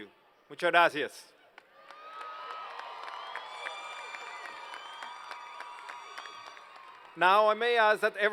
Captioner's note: applause